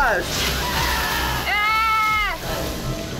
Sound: Ethan shrieking

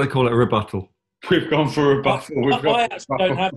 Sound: laughing

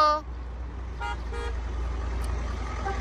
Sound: car horn honking

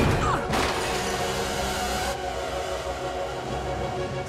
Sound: car crashing

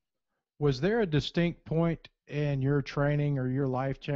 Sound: voiceover

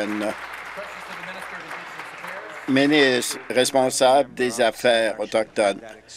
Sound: applause

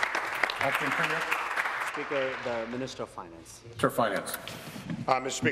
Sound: applause

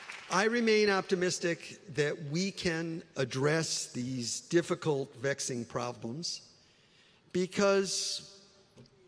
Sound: applause

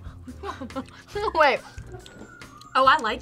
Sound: laughs

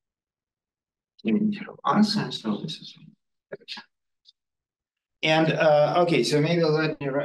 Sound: audio distorting

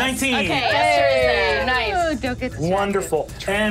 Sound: audience cheering

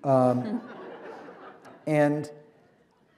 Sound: laughter

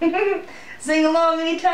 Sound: giggles

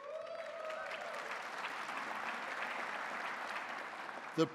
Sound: audience applauding

